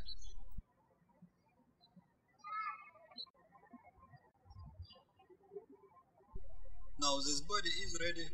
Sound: birds chirping

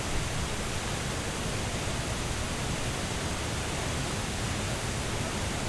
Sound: This is the sound of Cheonjiyeon Falls

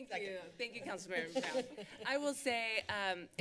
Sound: laughter

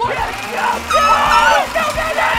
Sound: shouting

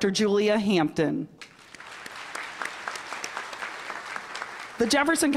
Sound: applause

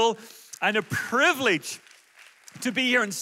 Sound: audience applauds

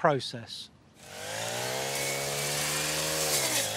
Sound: whipper snipper whines

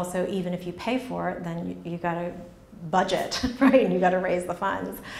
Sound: chuckles

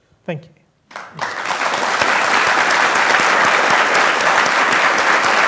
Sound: applause

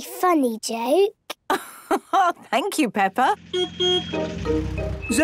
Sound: laugh; honking

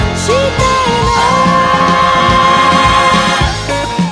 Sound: ~oooooh~

